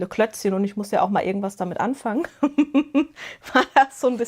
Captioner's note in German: Gelächter